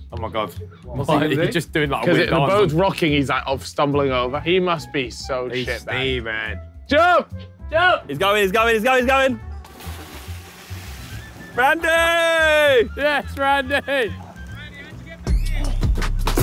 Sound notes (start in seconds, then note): 9.6 waters splashing; 15.8 upbeat music